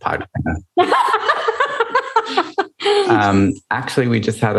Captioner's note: laughter